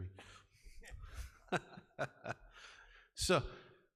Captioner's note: laughing